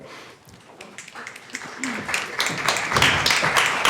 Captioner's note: applause